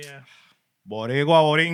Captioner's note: non-english Speech